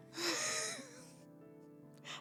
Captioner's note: laughing